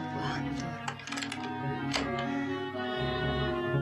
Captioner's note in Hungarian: zár zörgése